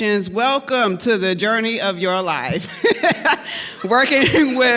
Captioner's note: laughs